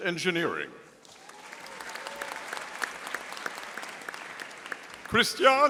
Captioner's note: audience applauding